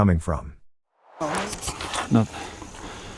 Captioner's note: air swooshes